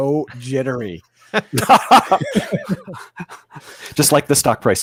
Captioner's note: laughing